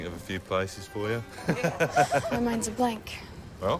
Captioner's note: laughs